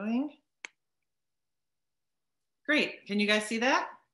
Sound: keyboard types

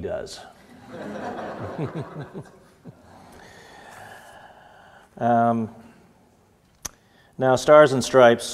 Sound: audience laughter

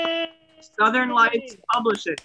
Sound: applause

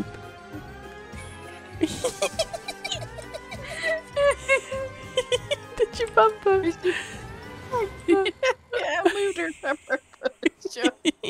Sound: laughter

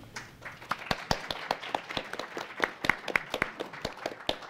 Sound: audience applauds

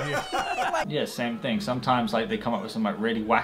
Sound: laughing

